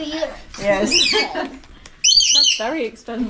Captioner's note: laughter